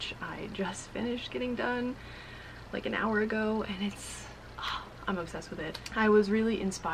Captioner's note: sighs